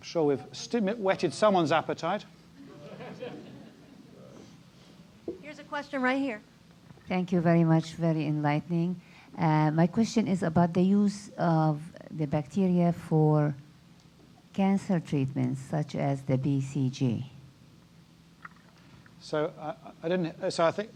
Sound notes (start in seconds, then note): 2.6 laugh